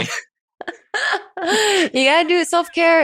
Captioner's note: chuckles